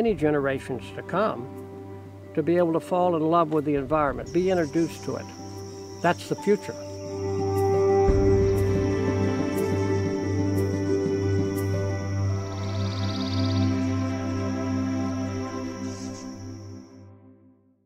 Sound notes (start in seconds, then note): 6.8 sound of birds